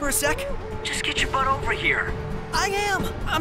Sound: on phone

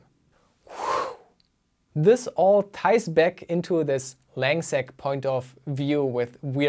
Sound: whoosh

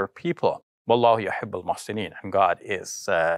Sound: speaks arabic

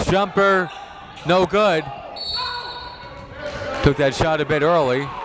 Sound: whistle blows

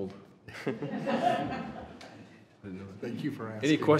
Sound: laughing

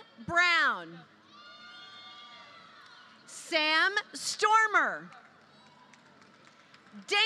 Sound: applause

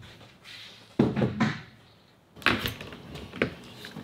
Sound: wood banging

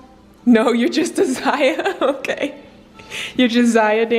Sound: laughs

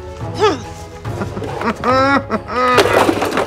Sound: chuckles

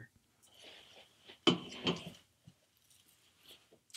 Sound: can clanks

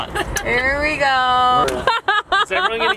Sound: laughing

